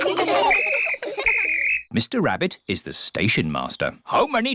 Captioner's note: blows whistle